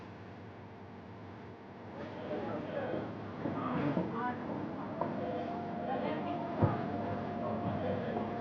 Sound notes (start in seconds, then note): 3.5 people chattering